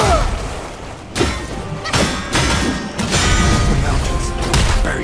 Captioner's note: swords clanking